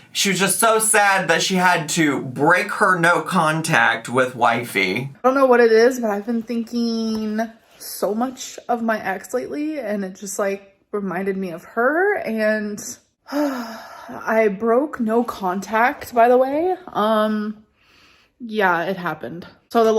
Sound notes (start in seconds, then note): 13.3 sigh